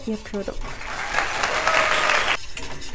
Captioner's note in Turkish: Alkış efekti